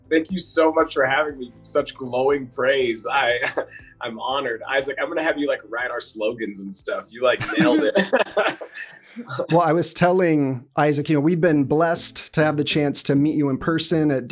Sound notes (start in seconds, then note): 7.4 all laughs